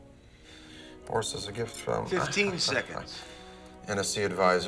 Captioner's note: laughs scoffingly